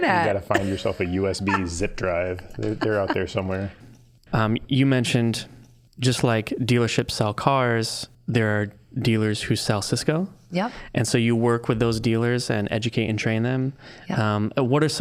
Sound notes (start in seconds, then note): 2.3 laughing